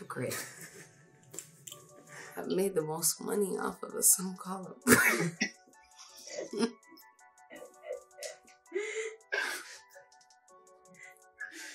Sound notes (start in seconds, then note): 0.3 laughs; 6.1 both laugh